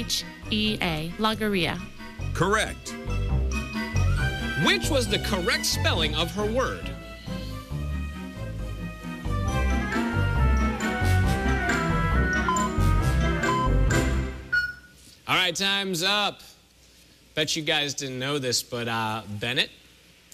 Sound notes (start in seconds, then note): 12.2 electronic beeping